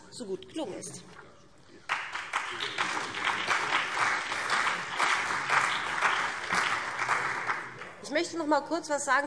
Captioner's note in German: Beifall BÜNDNIS 90/DIE GRÜNEN und vereinzelt CDU